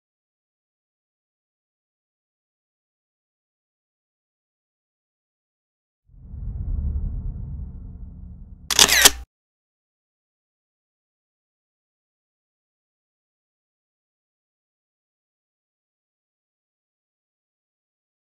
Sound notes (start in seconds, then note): 6.1 whoosh; 8.7 camera Flash